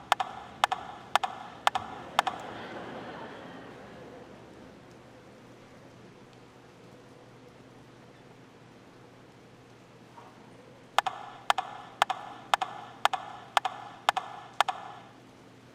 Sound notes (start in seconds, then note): 3.6 audience laughing; 12.5 rhythmic tapping